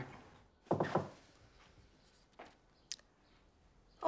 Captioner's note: knocking